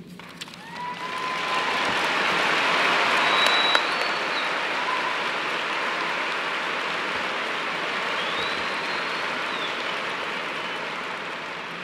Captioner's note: applause